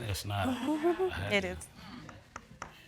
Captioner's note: chuckles